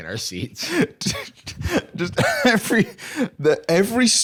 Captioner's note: laughs